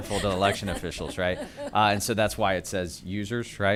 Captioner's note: laughter